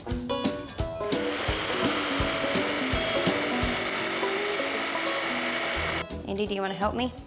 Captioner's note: saw cutting